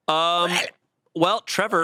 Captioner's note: growls